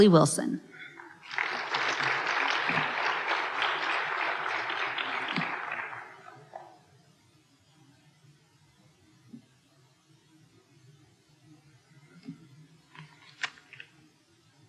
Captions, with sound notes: Harley Wilson. (applause)